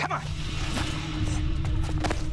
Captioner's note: grunts